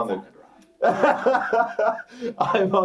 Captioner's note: laughs